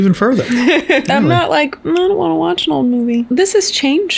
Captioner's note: laughs